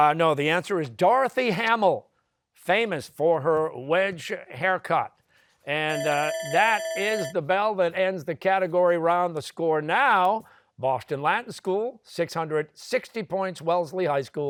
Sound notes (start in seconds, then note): 5.9 bell ringing